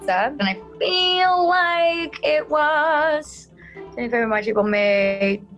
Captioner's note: sing-song